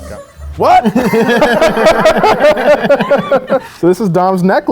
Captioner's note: both laugh